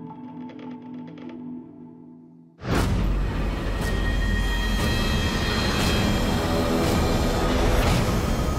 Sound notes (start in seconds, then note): 2.5 creaking; 6.5 ominous music